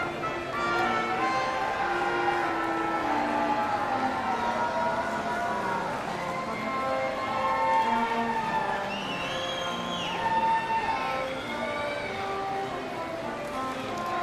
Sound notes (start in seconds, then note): 0.6 audience cheering